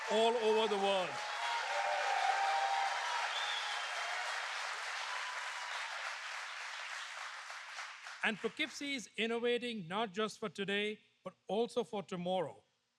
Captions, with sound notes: all over the world. (Applause.) And Poughkeepsie is innovating not just for today, but also for tomorrow.